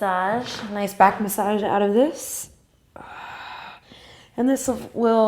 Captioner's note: exhale